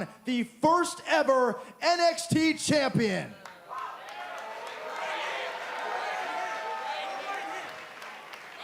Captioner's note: crowd cheering